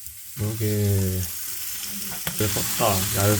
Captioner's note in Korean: 지글지글